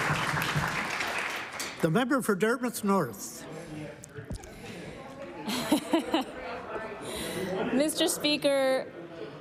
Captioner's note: applause